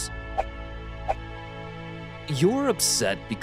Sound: hands swooshing

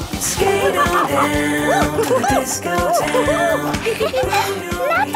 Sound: laughing and exclaiming

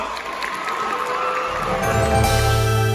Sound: claps & Applause; clapping Stops

